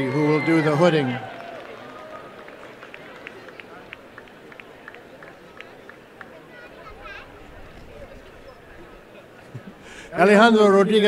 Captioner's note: applause and cheering